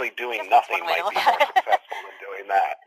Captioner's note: laughter